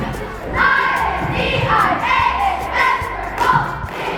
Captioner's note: chanting